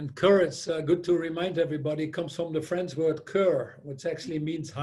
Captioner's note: foreign language 00:02:17